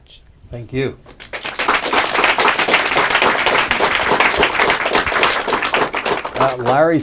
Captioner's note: applause